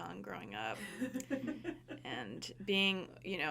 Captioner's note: people laughing